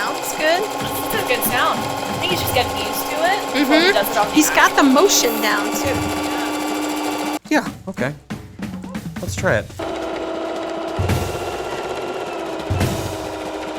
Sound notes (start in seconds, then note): 6.1 sewing machine whirring; 9.8 sewing machine whirring; 11.2 drumbeats